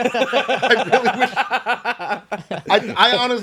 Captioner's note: laughing